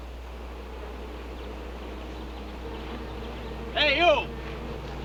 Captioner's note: buzzing